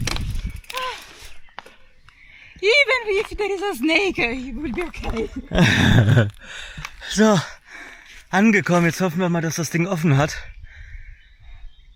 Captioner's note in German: gelächter